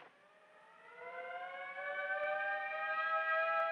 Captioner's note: siren wailing